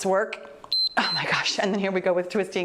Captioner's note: timer beeps